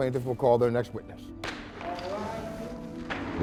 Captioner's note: gavel bangs